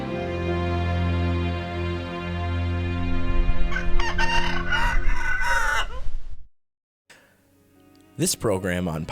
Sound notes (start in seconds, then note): 3.6 rooster crows; 8.2 voiceover